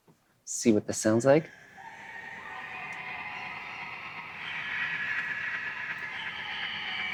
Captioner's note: animal sounds